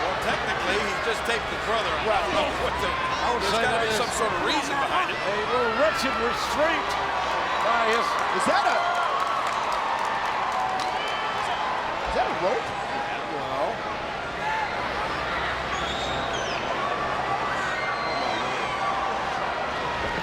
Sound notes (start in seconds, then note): 8.1 spectators cheering; 15.8 spectators cheering